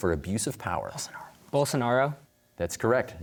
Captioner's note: whispering